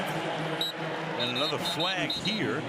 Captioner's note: whistle